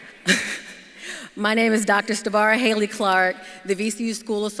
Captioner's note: laughs